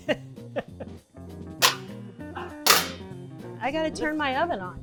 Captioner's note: laughing; whacking